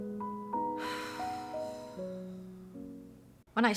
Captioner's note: sigh